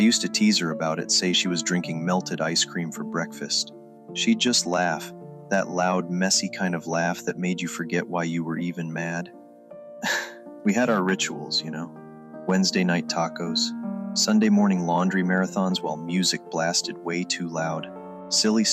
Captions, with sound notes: I used to tease her about it, say she was drinking melted ice cream for breakfast. She'd just laugh, that loud, messy kind of laugh that made you forget why you were even mad. [LAUGH] We had our rituals, you know? Wednesday night tacos, Sunday morning laundry marathons while music blasted way too loud.